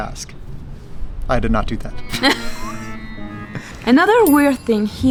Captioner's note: both laughs